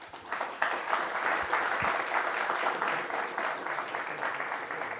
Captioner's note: audience applauding